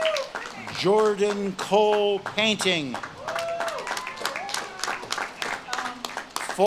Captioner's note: audience claps and cheers